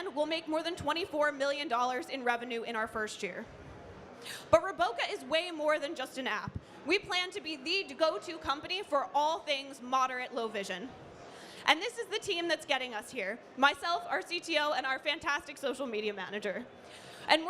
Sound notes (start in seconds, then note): none